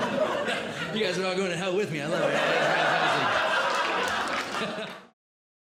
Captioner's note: audience Laughing